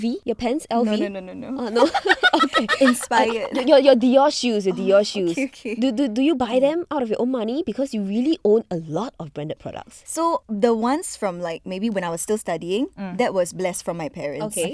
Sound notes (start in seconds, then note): 2.3 laughs